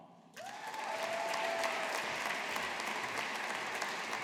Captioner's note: audience applauding